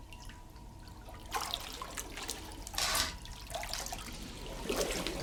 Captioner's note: water sound